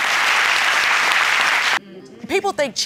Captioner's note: audience applauding